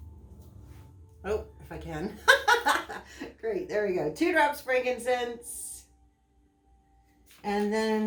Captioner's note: laughter